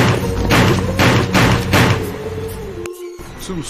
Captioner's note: gun fire